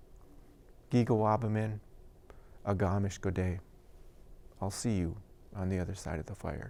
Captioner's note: non-english speech